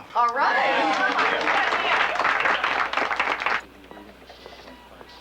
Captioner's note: applauding